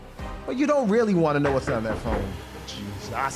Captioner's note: knocks